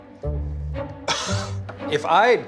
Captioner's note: coughs